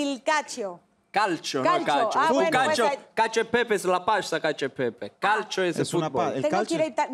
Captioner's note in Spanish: Hablan en otro idioma